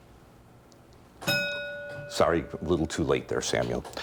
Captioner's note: bell ringing